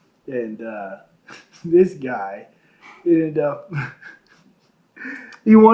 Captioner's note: laughs